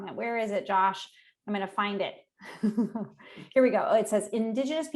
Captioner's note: chuckling